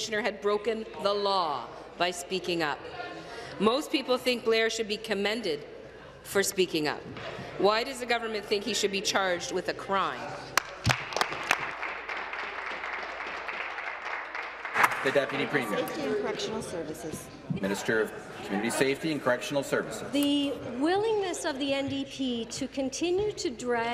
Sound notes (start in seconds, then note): 13.6 applause